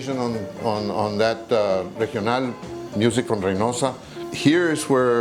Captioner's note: speaking in Spanish